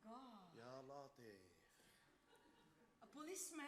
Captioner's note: man speaks Arabic